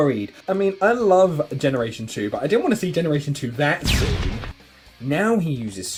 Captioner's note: explosion noises